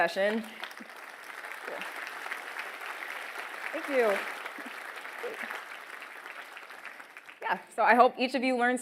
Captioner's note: applause